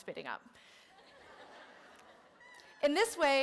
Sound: laughter

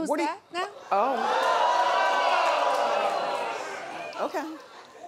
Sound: audience gasps

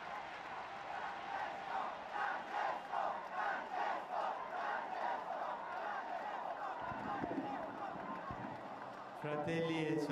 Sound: People chant "Francesco"

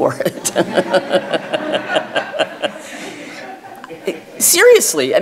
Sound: audience laughs; laughs

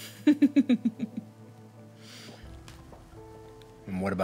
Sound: laughing

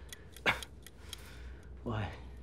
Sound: timer ticking; coughs

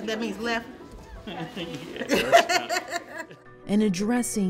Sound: both chuckle

